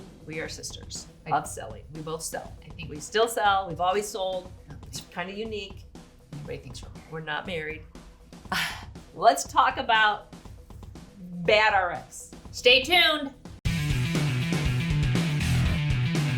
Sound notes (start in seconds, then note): 8.7 laughs; 13.5 upbeat music